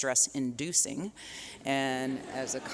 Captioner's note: laughter